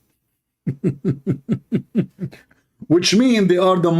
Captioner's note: Ketawa